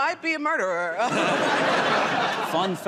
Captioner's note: laughter